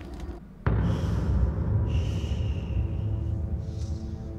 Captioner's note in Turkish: Nefes sesi